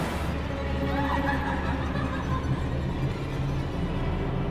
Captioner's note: woman laughing